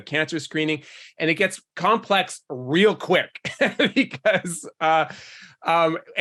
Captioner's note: laughs